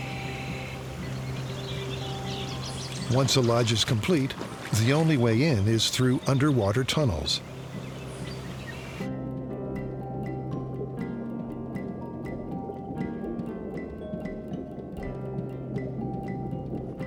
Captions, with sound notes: Once a lodge is complete, the only way in is through underwater tunnels. [water gurgling] [peaceful music]